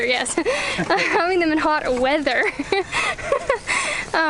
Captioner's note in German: lacht